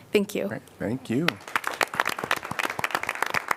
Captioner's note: applause